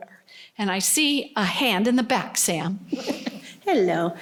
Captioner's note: laughter